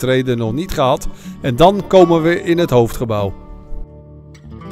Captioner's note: voiceover